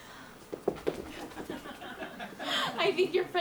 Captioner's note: audience laughs